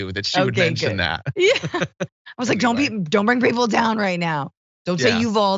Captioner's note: laugh